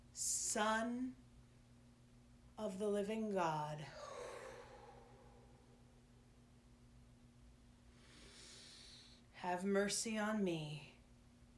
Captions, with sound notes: Son of the Living God. (exhaling) (inhaling) Have mercy on me.